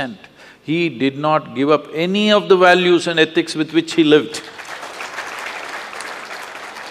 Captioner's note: applause; 掌聲